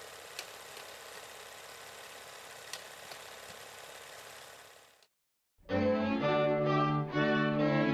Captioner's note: film reel spinning